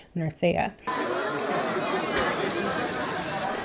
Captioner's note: crowd laughing